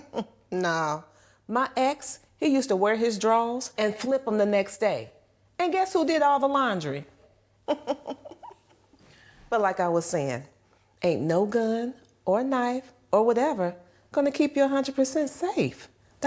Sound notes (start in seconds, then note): 7.6 aneesha chuckling